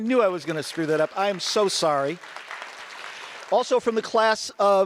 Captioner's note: audience applause